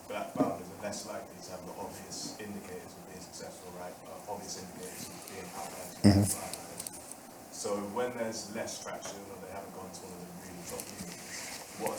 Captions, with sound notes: Black Bound is best likely to have the obvious indicators of being successful (speaking faintly) So when there's less traction or they haven't gone,